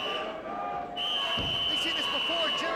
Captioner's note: whistle blowing